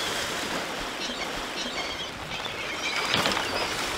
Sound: gulls cooing

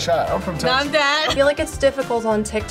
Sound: laughs

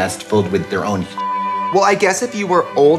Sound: beep

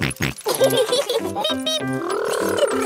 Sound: both laughing

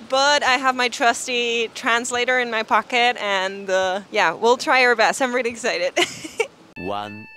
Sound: laughs

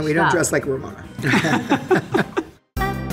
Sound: all laugh; upbeat music playing

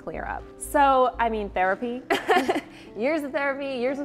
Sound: chuckles

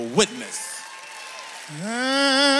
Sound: audience applauds

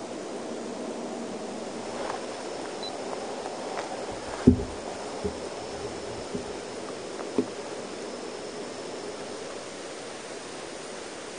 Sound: rainfall

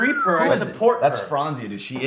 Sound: whistles

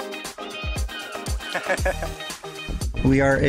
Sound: laughter

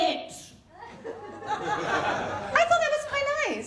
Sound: laughter

